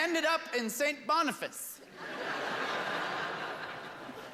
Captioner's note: laughter